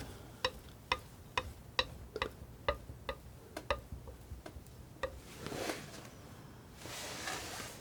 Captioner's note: tapping